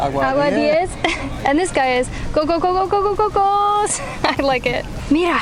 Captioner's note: laughs